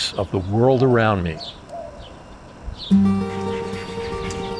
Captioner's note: nature sounds; upbeat guitar music